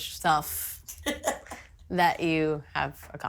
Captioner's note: laughing